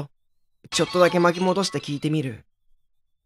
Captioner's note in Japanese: 何かが割れるような音：カラカシャーン･･･